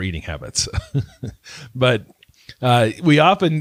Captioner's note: laughs